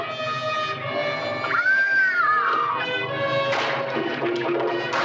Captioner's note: Lady Haloran screaming